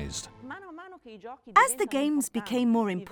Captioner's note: speaking in foreign language